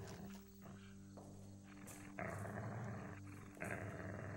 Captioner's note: Atticus continues growling